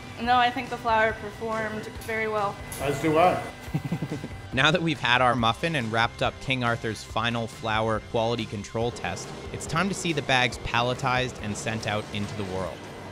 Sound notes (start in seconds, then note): 3.6 laughing